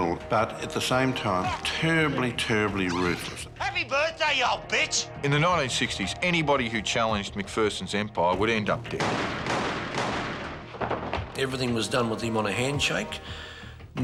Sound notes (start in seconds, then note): 8.9 gun firing